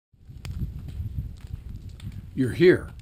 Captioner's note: fire blazing